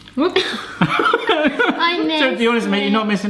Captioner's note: laughing